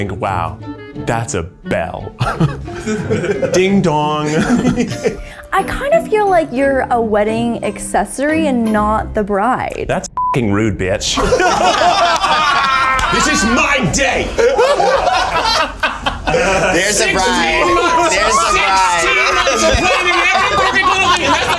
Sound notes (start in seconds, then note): 2.2 people laughing; 11.1 all laughing